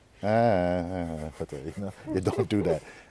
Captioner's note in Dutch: gelach